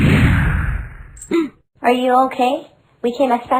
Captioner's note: gasp